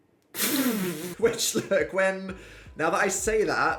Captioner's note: laughs